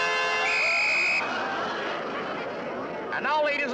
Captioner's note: whistle shrills